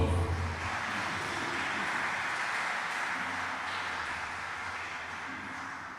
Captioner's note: applause